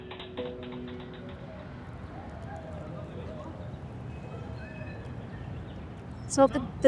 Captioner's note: traffic Sounds